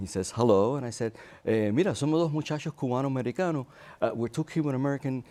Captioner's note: speaks Spanish